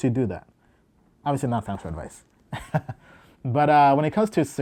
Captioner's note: laughs